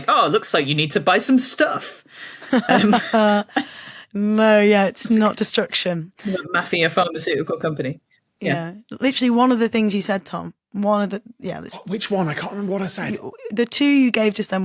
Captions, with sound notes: "Oh, it looks like you need to buy some stuff." (laughs) No, yeah, it's not destruction. Not a mafia pharmaceutical company. Yeah. Yeah. Literally one of the things you said, Tom. One of the— yeah. Which one? I can't remember what I said. The two you gave just then